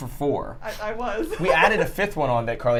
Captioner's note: laughs